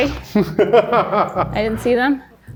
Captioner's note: laughs